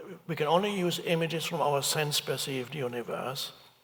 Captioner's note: none